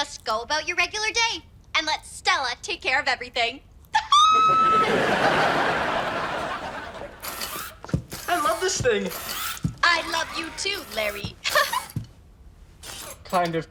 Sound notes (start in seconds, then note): 4.0 screams; 4.3 audience laughs; 11.4 laughs